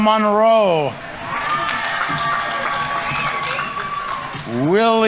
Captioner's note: audience members cheering; audience applauding